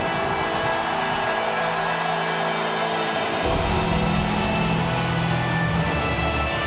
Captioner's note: crowd cheering; ominous music continues